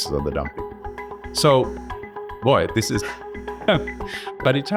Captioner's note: laughs